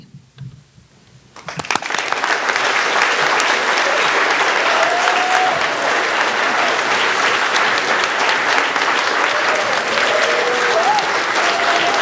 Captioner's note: all applauding